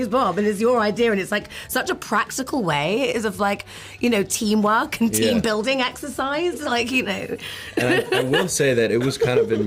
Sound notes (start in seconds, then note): 7.8 laughs